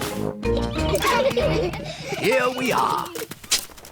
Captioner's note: all giggle